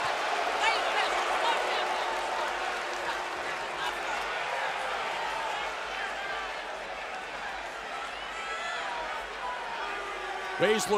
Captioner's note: cheers and boos